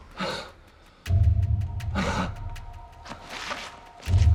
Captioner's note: Danny gasps